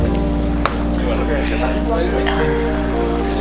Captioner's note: scientists chatters; laptop clacks; scientists chatter